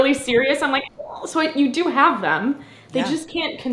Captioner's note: vocalizes